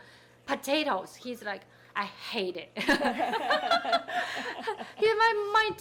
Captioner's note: people laughing